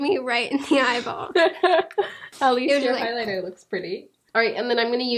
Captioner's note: laughing